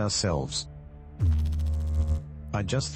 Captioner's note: electrical noise